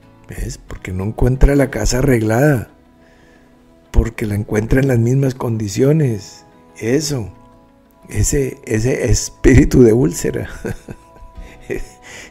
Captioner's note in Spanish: risas